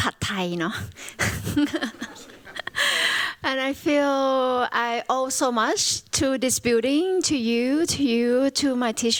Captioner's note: chuckles